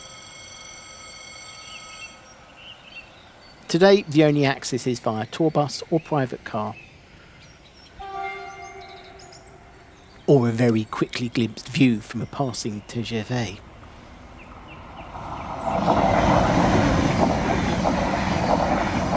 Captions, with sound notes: …today the only access is via tour bus or private car… [TRAIN HORN] …or a very quickly glimpsed view from a passing TGV. [SOUND OF A PASSING TRAIN]